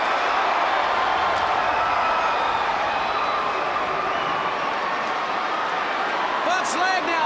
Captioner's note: crowd cheering